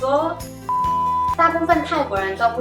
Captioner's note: beep